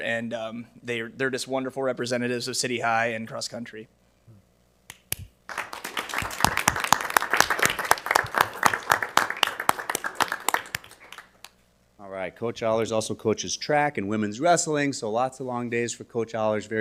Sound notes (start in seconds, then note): 5.4 audience applauding